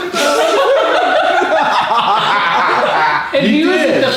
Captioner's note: group laughs